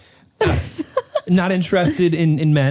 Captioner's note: laughs